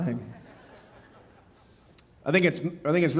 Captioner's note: audience laughing